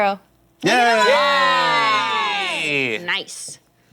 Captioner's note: cheering